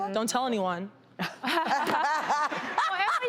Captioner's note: laughs